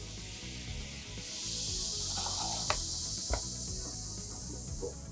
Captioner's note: baking soda fizzing